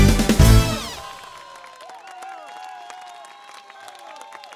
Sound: aplausos

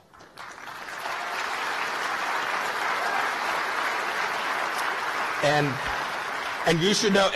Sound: applause

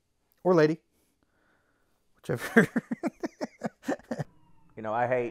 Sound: laughs

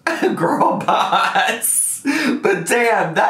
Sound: laughing

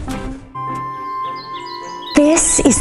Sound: birds chirping

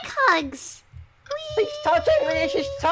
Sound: In Stitch’s voice

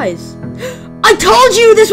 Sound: gasp

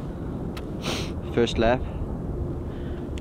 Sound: sniffs

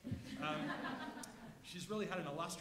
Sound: audience laughs

